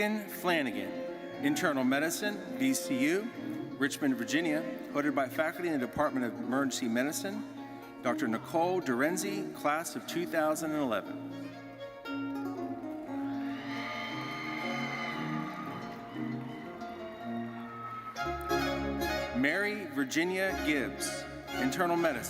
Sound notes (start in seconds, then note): 10.6 orchestral music continues; 13.2 audience cheering and applauding